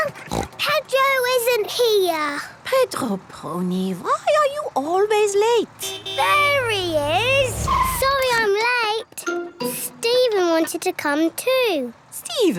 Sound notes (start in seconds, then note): 0.1 snort; 5.8 honking